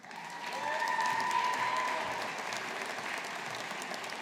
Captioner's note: audience applauding